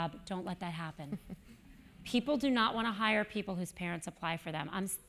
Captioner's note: laugh